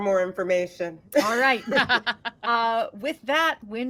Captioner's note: chuckles